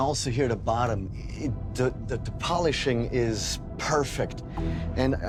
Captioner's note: stammers